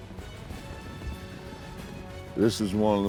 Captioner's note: hoofbeats